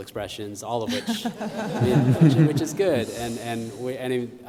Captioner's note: laughter